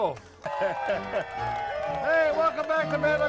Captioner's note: crowd cheering